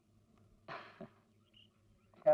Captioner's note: chuckles